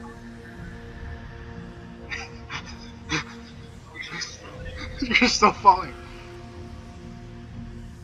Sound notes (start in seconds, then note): 2.0 laughing